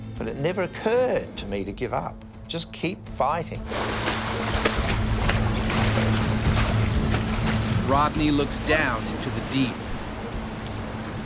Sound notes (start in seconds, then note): 3.6 splashing; 7.7 voiceover